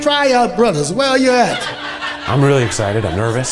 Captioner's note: audience laughs